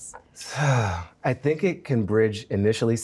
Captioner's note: sighs